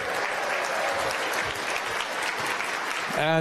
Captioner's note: applause